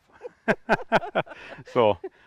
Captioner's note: laugh